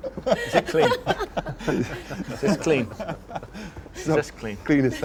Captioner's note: all laugh